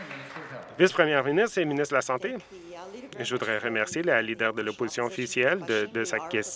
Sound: some Applause

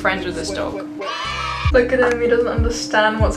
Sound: children cheering

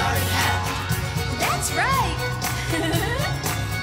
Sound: giggling

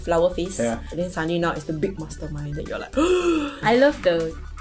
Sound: gasps

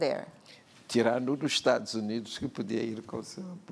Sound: speaking portuguese

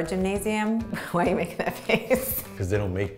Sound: laughs

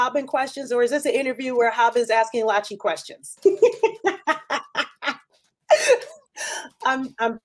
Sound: laughs

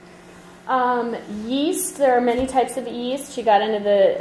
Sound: voiceover

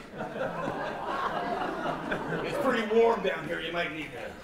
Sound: laughter

